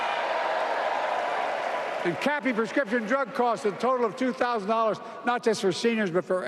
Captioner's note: applause